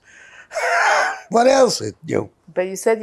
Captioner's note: laughing